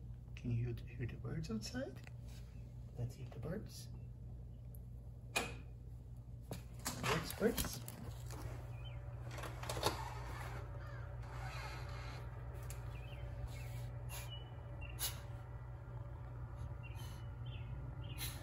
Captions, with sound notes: Can you hear the pretty birds outside? Let's hear the birds. (door handle clicking) Those birds. (birds chirping) (birds cawing) (birds chirping) (sniffing)